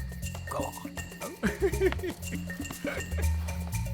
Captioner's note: giggling happily